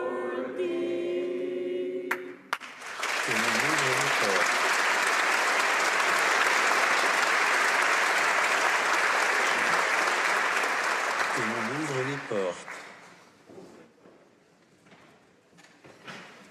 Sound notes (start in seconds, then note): 5.6 applause